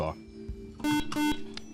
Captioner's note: beeping